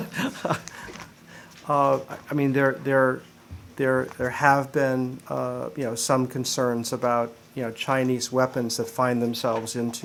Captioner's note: laughter